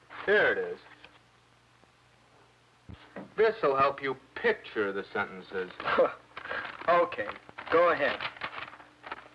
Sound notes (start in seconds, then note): 5.8 scoffs